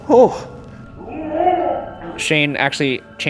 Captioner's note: groaning